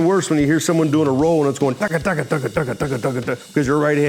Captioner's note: mimics drum rolling